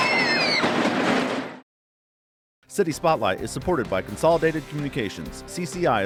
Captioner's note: screaming